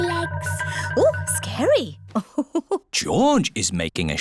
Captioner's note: laughs